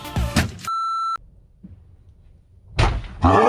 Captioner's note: upbeat electronic music; beep; groaning